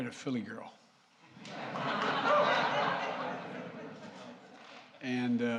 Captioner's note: laughter